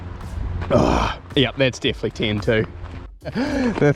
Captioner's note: groans happily